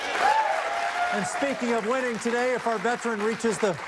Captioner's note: cheers and applause